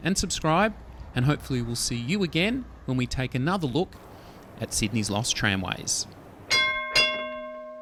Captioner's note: tram Bell